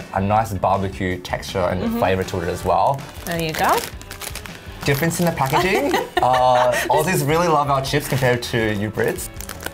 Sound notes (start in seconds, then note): 5.5 laughing